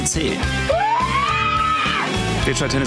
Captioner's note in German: Geschrei